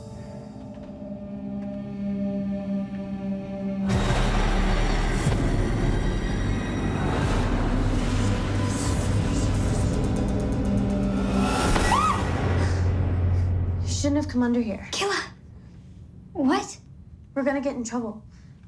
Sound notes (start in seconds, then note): 11.7 screams